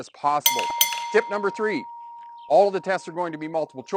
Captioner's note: bell rings